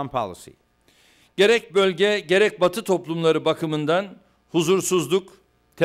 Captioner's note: non-english speech